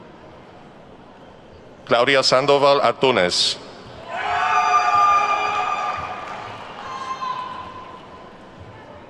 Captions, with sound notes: Claudia Sandoval Antunez. (attendees whooping and clapping)